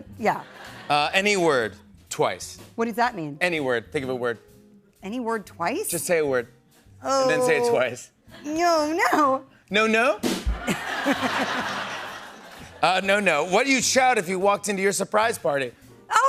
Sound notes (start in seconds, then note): 10.5 laughter